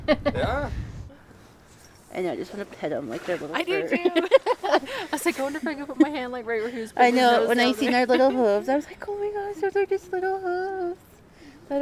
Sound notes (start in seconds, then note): 4.0 laughs